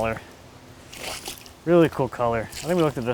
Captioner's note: water splashing